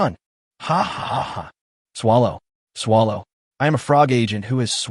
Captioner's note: hahaha!